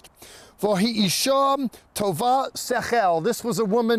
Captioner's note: speaking in Hebrew